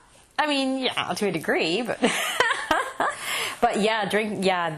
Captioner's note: laughter